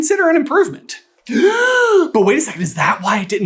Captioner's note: gaaaaaaaaaaaasp!